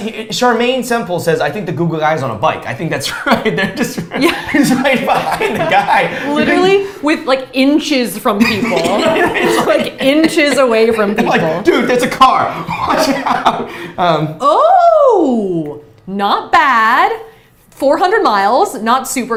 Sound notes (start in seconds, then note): 5.2 chuckles; 8.4 both laughs